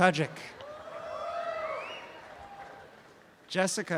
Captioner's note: audience cheering